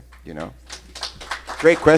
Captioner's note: applause